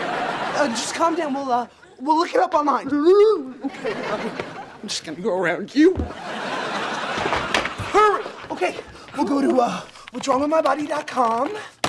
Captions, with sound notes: Uh, just calm down, we'll look it up online. [moaning] I'm just gonna go around you. [laughing] - Hurry! - OK. I'll go to What'sWrongWithMyBody.com.